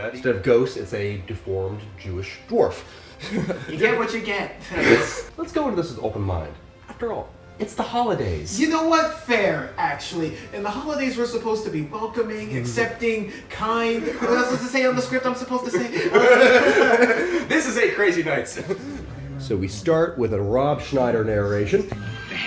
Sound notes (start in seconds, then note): 15.7 haha